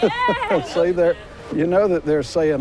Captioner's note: chuckles